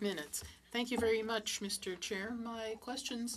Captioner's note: speaking French